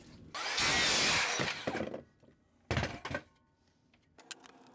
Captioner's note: saw cutting